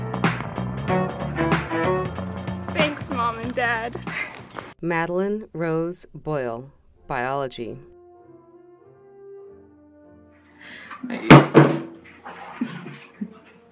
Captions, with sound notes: Thanks mom and dad Madeline Rose Boyle, Biology (water bottle crashes)